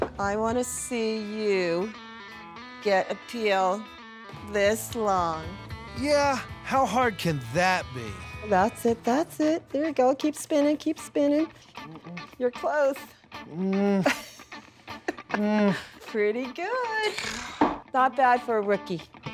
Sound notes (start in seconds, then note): 13.6 laughing